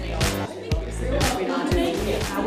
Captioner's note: people Talking Loudly